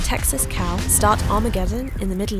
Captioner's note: explosion booming